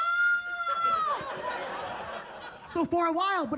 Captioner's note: attendees laughing